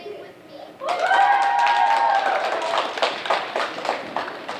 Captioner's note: chorus cheering